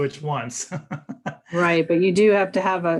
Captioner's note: laughs